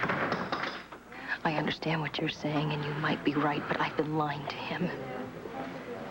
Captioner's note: DOOR OPENS and SLAMS